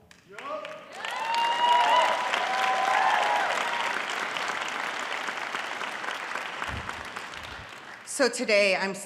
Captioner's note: audience cheering